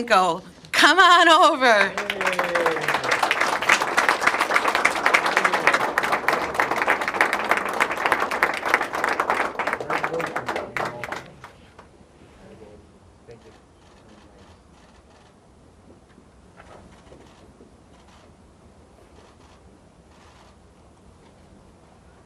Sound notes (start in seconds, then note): 6.4 applause